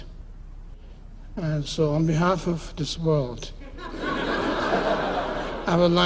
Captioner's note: laughter